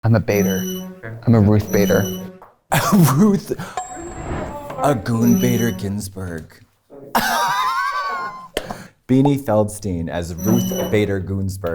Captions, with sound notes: - I'm a Bater. I'm a Ruth Bater. - A Ruth... A goon Bater Ginsburg. (laughs) Beanie Feldstein as Ruth Bater Goonsburg in...